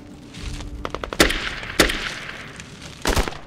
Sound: guns firing

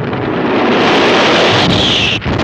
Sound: explosion

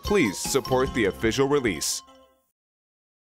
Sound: none

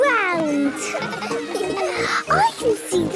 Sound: children laughing

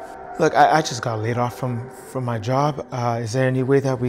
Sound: tense suspenseful music; stammering

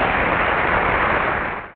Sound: audience applause

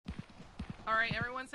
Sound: foot steps

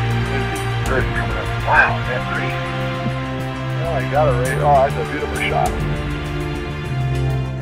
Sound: radio chatter: .... that's a beautiful shot

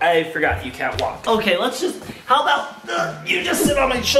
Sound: grunts

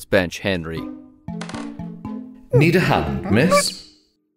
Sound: ape noises

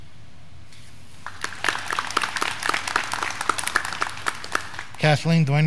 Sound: graduands clapping

